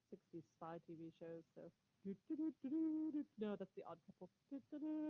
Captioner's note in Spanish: Humming